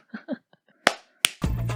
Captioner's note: claps